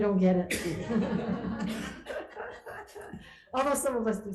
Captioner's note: laughter